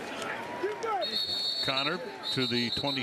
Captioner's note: whistle blows